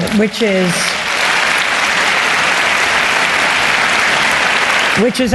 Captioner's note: applause